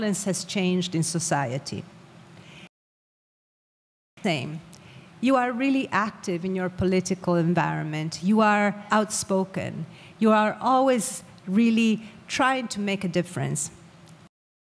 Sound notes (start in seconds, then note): 2.7 audio out